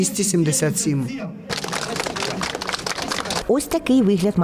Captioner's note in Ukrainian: аплодисменти